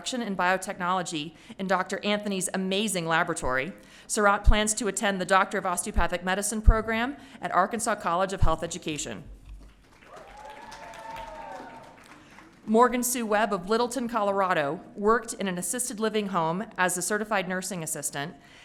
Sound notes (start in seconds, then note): 9.9 audience cheering